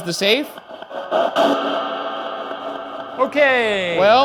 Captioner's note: device hisses and thrums